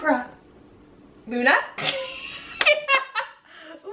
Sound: laughs yeah

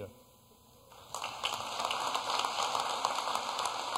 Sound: applause

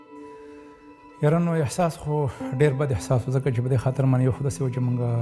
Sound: speaking pashto

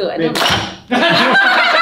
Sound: crack; laughs uncontrollably

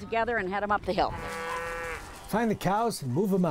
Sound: cattle mooing

